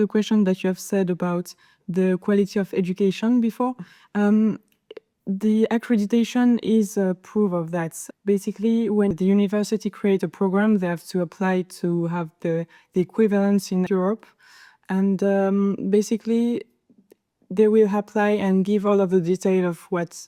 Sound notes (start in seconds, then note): none